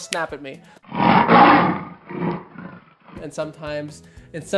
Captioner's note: lion roaring